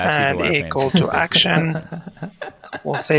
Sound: laughing

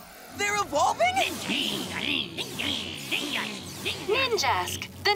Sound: grumbling

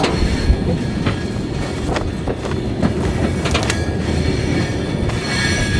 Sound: metal creaking; fabric flapping

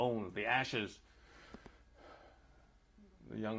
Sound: sighs

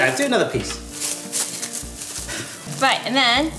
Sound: clingfilm rustling

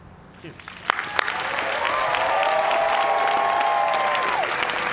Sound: cheers and applause

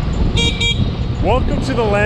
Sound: horn beeps

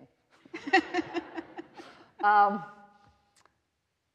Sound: all laughing

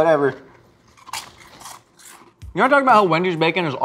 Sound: crunches

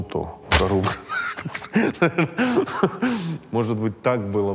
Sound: laughs

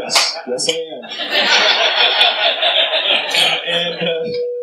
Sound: laughter

